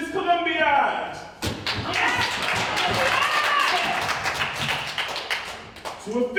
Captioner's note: ensemble cheers